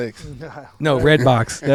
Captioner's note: chuckles